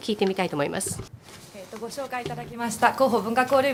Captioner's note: speaking japanese